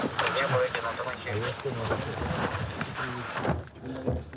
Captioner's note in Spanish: audio hablado en ucraniano